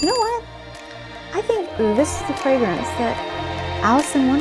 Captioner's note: alarm rings